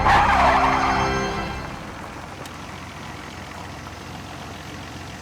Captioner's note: engine rumbling